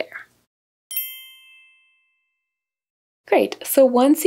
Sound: bell chiming

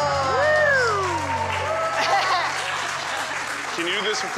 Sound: audience cheering

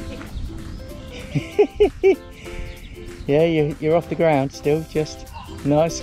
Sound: laughs

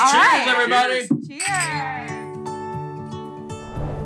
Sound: glass clinking; gentle music

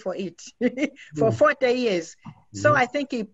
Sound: laughs

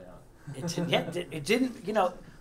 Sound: laugh

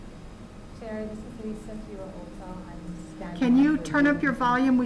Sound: speaking quietly

